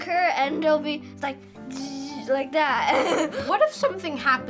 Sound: laughs

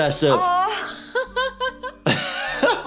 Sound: laughs

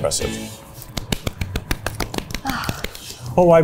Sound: both clapping

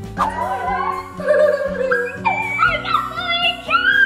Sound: children squealing

